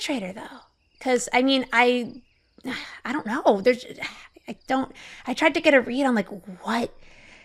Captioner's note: exhales